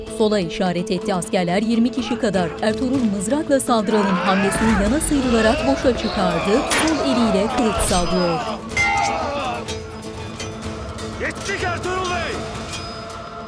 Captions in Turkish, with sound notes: (Dövüş sesleri) Yettik Ertuğrul Bey.